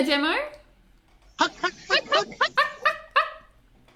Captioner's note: imitate penguins; imitates penguins